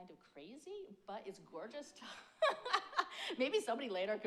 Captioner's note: laughs